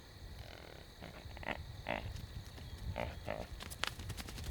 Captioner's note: deer snorting